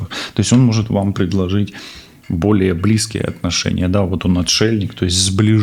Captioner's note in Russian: фыркает